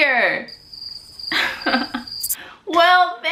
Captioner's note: crickets